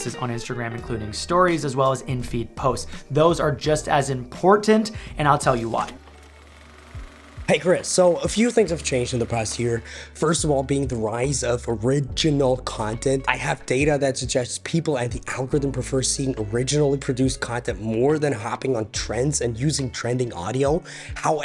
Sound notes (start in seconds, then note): 5.4 film whirring